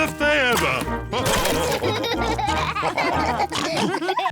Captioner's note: all laugh